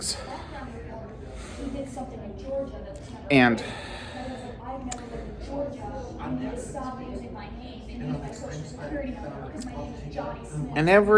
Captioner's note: students chattering